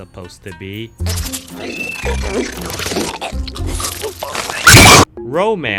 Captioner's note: uncomfortable Gagging